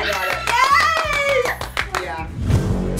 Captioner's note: clapping; upbeat music